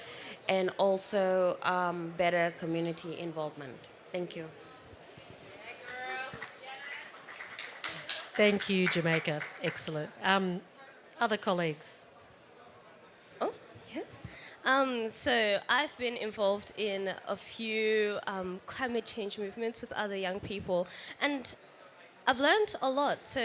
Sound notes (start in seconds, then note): 5.6 applause